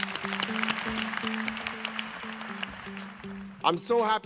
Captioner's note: applause